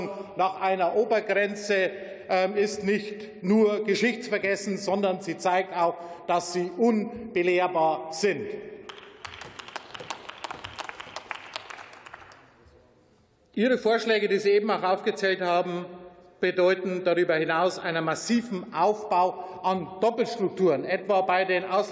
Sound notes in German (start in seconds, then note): 8.8 Beifall